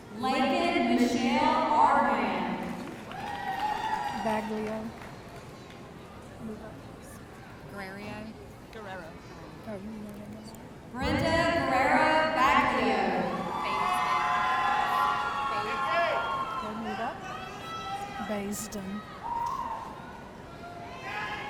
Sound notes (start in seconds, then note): 2.5 audience cheering; 13.0 audience cheering